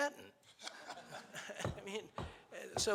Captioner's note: laughing